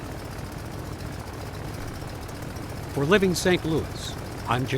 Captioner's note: engine roaring